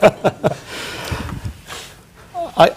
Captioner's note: laughter